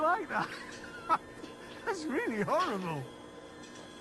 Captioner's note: laughs